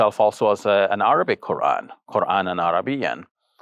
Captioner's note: speaks Arabic